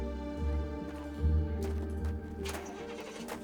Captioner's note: nearby car engine fires up